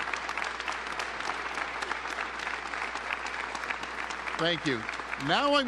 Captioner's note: applause